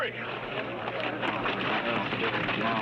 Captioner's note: all murmuring